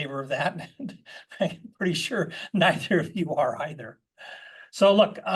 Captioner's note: laugh